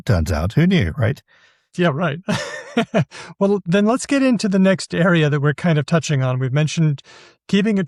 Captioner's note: chuckles